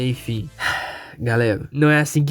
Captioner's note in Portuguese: Sigh